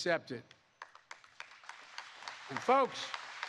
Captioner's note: applause